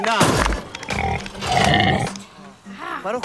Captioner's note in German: Grunzen